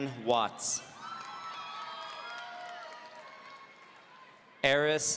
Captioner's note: audience cheering